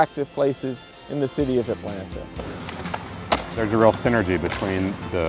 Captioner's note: skateboard hitting concrete